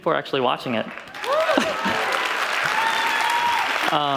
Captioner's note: applause